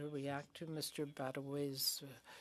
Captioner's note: speaking French